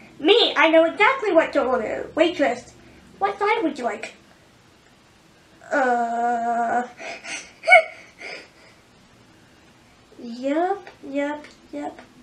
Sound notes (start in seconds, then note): 7.0 giggles